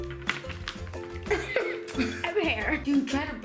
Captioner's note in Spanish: ríe